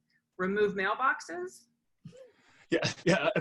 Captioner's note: laughs